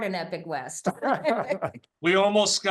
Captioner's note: laughter